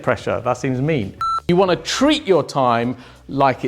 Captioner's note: computer beeps